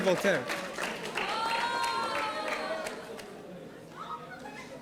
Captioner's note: audience applauding